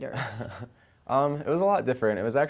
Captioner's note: soft chuckle